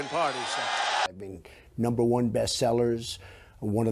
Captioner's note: applause